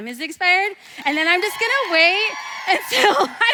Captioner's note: audience applause